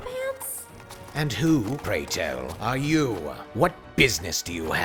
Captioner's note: deep raspy voice